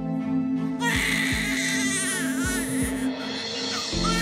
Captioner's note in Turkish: Bebek ağlıyor